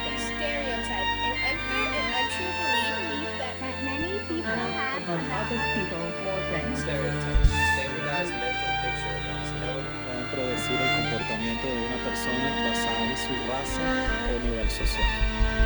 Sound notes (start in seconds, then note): 9.9 man speaking in foreign language